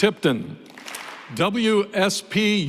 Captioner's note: applause